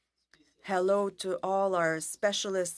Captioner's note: speaking French